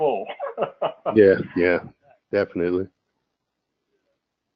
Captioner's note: laugh